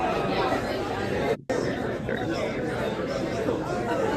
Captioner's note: attendees chattering